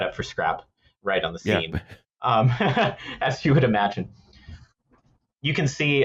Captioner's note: laughs